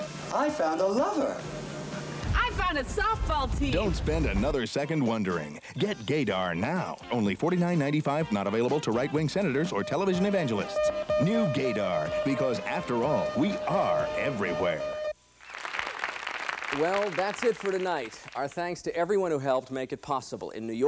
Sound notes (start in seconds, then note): 10.9 male Announcer over beeping; 15.4 applause